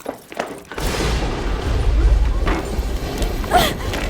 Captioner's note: thunder & lightning